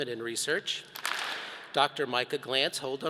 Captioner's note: all clap